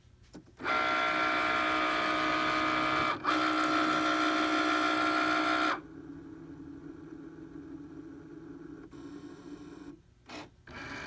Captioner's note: Cricut machine cutting paper